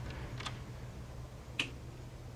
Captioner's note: light Switch